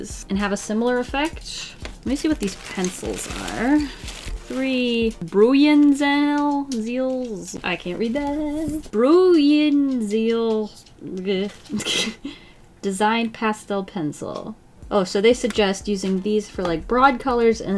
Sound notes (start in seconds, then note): 11.6 laughs